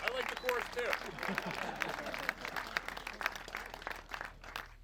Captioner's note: laughter